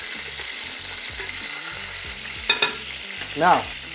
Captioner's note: sizzling sound